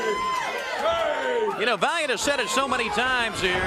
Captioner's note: crowd chatter